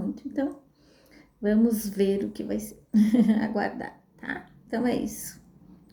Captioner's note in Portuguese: risadas